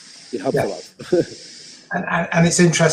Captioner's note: chuckles